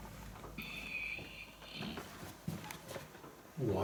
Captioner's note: creaking and static